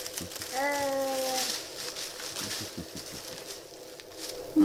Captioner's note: baby cooing